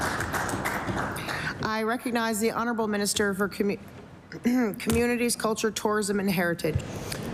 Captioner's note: applause